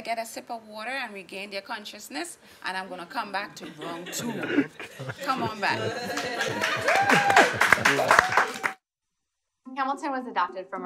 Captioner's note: applause